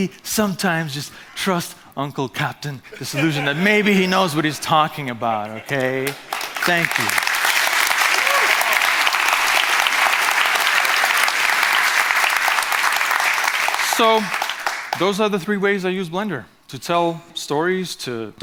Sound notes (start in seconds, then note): 8.4 clapping